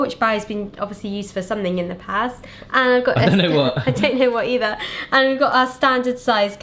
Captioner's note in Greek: γέλια